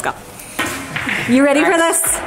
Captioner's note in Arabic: كرات البلياردو تقرقع